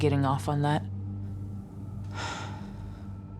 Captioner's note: sighs